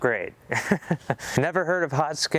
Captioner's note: laughing